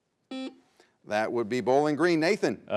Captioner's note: buzzer buzzes